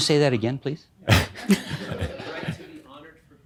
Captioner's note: some chuckles